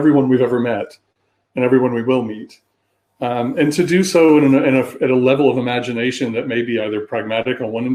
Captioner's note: erm